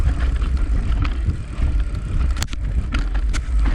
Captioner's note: bike ratchets; dirt rustling